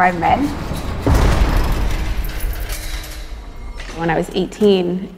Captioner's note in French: bruit d’une porte de sécurité qui se referme